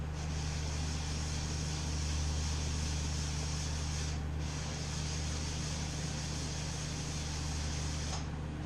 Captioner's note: SFX: intense head sanding